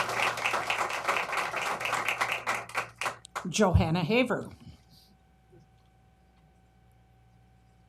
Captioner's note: applause